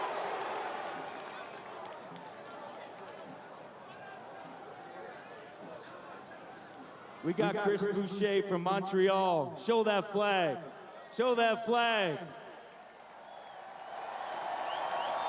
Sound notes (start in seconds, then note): 0.0 cheering and Applause; 5.6 cheering